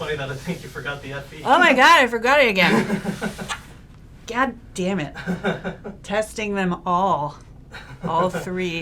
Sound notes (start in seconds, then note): 5.2 laughs